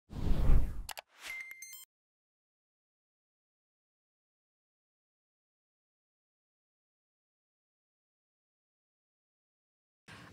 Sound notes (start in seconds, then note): 1.3 beeping